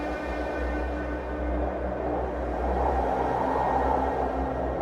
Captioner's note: wind whistling